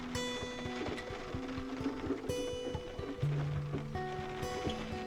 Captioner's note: rain